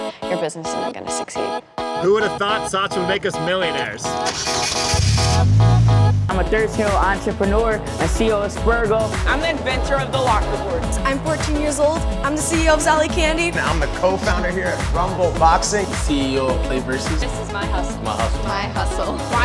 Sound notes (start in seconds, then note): 4.5 car engine rumbling